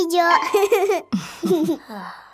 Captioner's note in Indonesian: tertawa